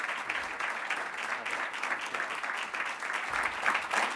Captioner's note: applauding